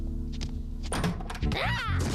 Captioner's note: approaching footsteps